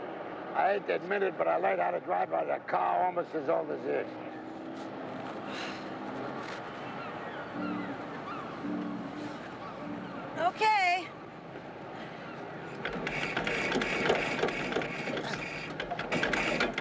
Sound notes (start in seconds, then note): 5.3 sighing; 5.4 seagulls cawing; 12.6 engine cranking